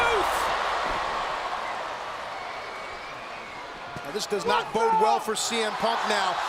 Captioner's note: applause